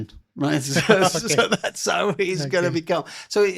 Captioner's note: laughs